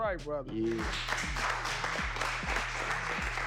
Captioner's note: applause